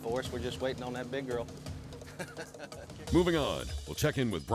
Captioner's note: laughing